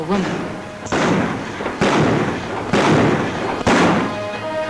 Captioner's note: guns bang